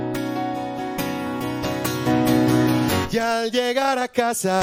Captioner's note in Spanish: none